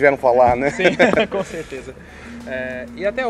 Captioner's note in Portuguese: risos